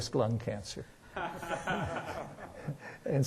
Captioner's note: laughter